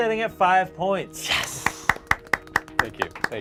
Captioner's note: group claps